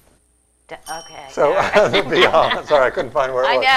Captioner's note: ding